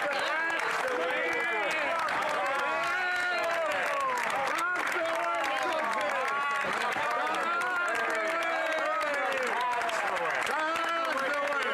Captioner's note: applause